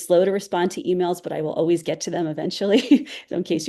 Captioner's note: chuckles